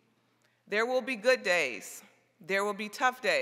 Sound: none

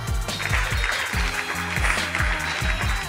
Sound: upbeat hip hop music; applause

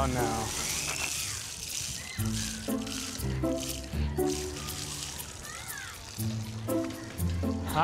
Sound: water spurts

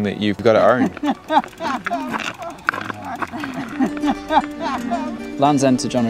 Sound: laughing

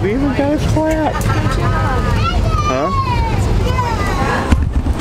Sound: passengers speaking

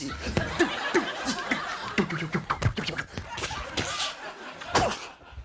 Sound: imitating weapons swinging

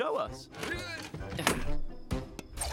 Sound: grunts

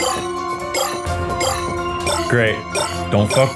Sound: shards bleeping

